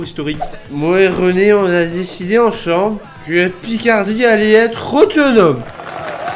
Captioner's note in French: voix bourrée